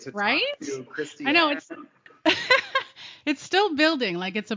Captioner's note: giggles